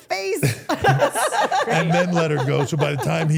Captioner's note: everyone laughs